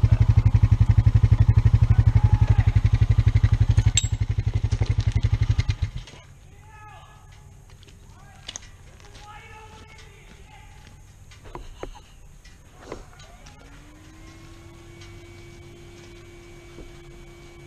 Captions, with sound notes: (yelling from up the hill) Mysterious guy on the hill: DARILL THIS IS WHAT HAPPENS WHEN YOU LEAVE ME ALONE YOU DICK